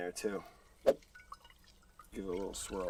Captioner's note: lime juice splashing into jug